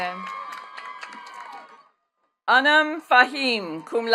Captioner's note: attendees cheering and clapping